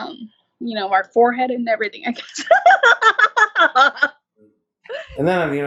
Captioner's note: laughs